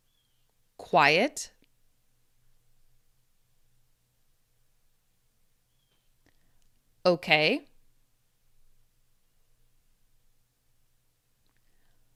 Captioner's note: quiet